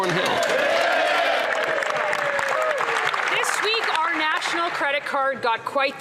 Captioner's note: applause